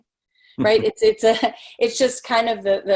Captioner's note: laughing